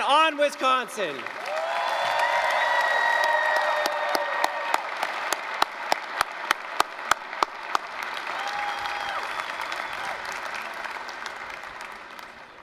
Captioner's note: applause, cheering